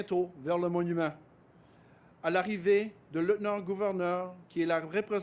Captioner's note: speaks French